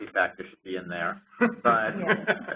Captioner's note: laughter